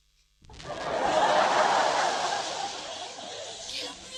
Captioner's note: laughter